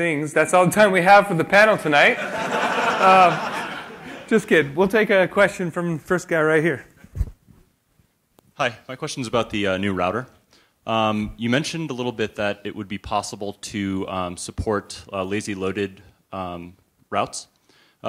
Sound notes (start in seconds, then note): 2.1 laughter